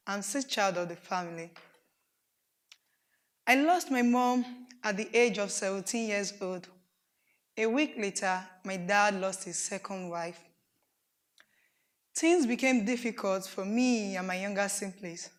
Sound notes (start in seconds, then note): none